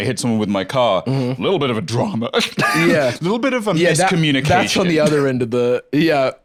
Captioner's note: laughs